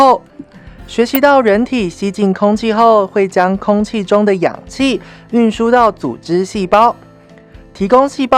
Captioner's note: breathing in